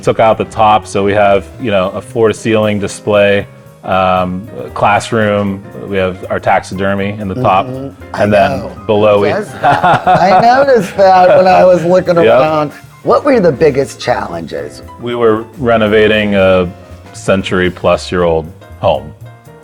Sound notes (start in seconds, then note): 9.2 laughs